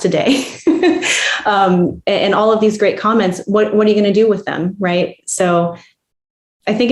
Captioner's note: laughs